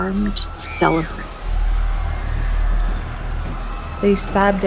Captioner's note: soundbite of people screaming